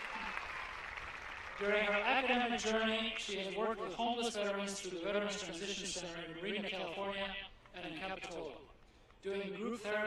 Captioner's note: applause